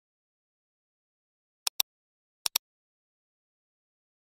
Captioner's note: click